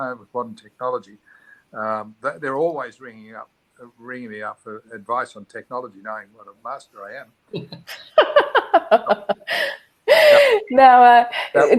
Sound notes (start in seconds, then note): 7.9 participants laughing